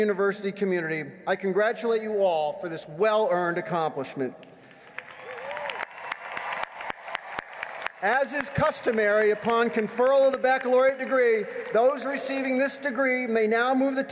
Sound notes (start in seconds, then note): 8.6 applause